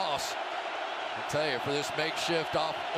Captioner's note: cheering